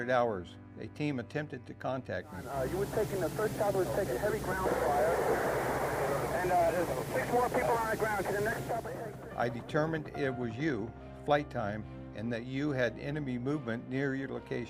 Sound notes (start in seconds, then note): 4.7 static buzzing; 6.7 chattering indistinct